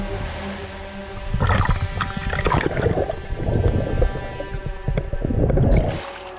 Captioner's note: ominous music playing; water bubbling